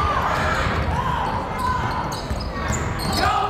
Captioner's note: yelling